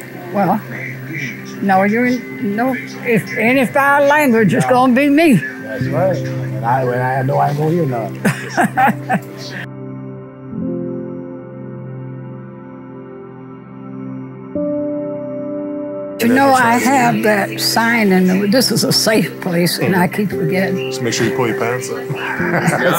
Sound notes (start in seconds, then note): 8.2 laughs; 9.3 soothing music